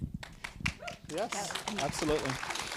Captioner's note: audience applauding